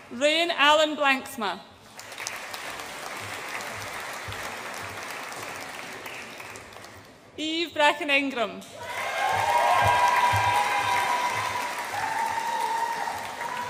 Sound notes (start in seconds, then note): 1.9 audience applauds; 8.8 audience applauds and cheers